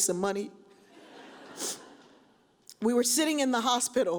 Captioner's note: audience chuckles; sniffs